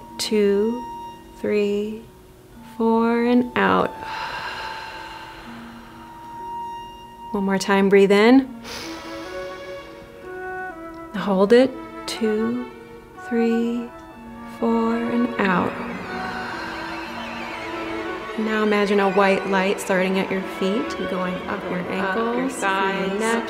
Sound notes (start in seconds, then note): 4.0 everybody exhales slowly; 8.6 everyone inhales slowly; 16.0 everybody exhales slowly; 17.6 mystical music